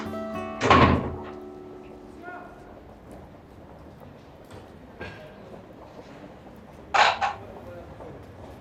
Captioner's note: a distant shout. people talk as they walk past on a busy street